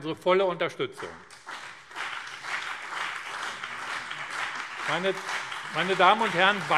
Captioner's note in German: Beifall BÜNDNIS 90/DIE GRÜNEN und CDU